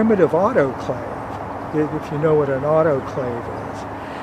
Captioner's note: none